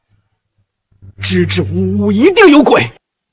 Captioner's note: stammering